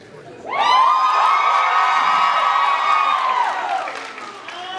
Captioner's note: cheers, applauds